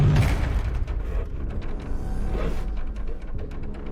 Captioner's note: rattling; suspenseful